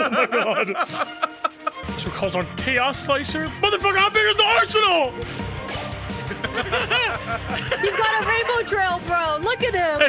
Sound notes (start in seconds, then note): 6.2 laugh